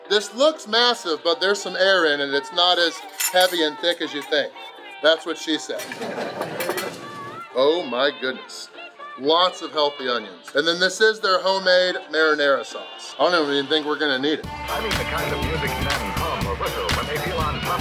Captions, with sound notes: This looks massive, but there's some air in it and it's not heavy and thick and you think. That's what she said. (crowd laughing) Oh my goodness. Lots of healthy onions. And this is their homemade marinara sauce. I don't even think we're gonna need it. (upbeat music)